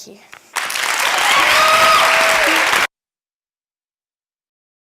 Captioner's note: clapping